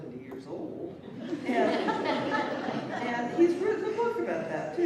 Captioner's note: laughter